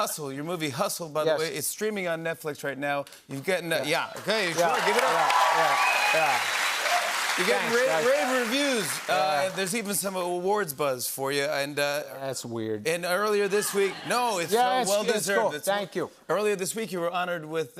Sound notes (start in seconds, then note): 4.2 cheers and applause